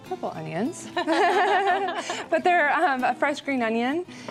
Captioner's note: chuckles